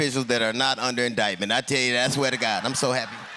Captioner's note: laughter